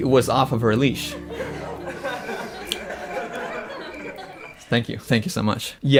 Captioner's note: soft laughter; cricket sounds